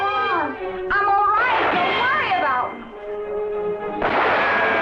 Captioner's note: guns blasting